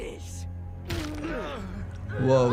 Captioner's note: Dr. Elias Brandyworth groaning